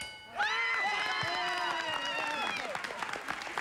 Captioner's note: cheering